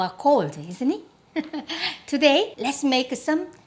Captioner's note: laughs